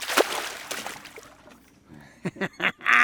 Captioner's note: fish splashing; laughing